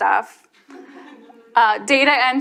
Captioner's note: audience chuckles